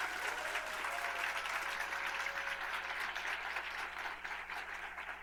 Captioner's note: applause